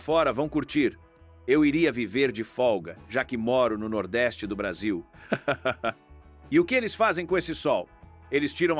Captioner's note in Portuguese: risadas